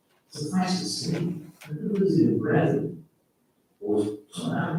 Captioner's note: faintly speaking